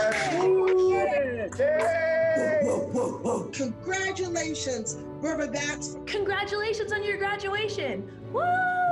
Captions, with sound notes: - [Crowd] Congratulations Riverbats! - Congratulations Riverbats!